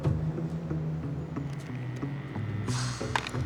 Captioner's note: dial tone drones